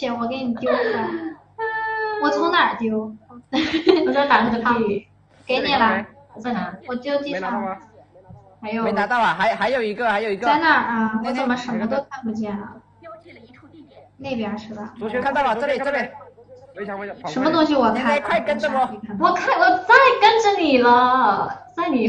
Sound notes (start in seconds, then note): 7.1 weeping